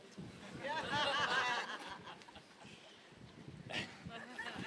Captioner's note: audience laughing